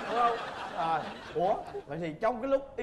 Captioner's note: laughing